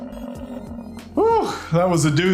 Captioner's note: buffalo grunting